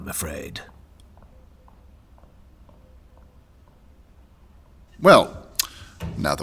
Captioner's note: Sophrosyne’s footsteps receding